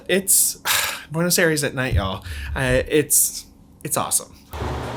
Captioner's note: sighs